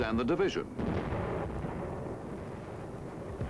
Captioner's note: booming